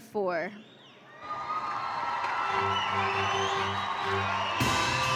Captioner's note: audience applauding and cheering; band music